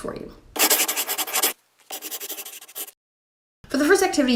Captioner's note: scribbling